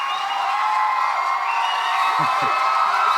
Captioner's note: cheering continues